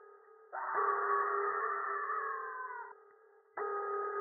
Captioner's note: screaming